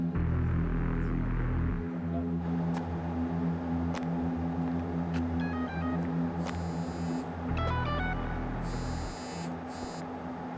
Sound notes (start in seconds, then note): 5.8 footsteps and cell phone